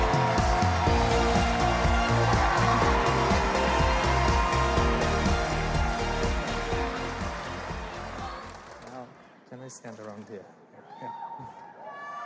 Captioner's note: cheers and applause